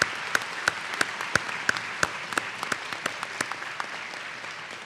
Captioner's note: applause